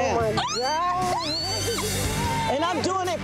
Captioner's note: squeals